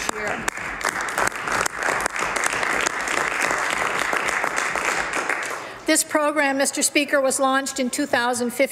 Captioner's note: some Applause